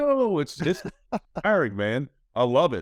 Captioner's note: laughs